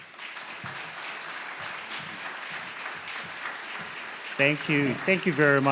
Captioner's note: audience clapping